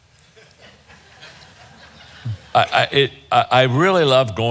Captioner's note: audience chuckling